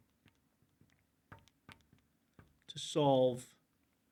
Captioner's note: marker clacks